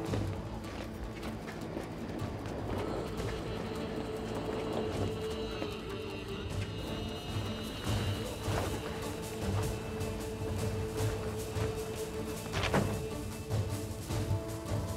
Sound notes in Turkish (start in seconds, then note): 12.4 Kapı kapanma sesi; 13.6 Müzik - Gerilim